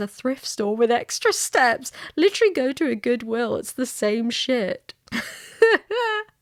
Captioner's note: laughs